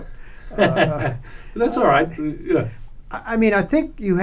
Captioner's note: laughs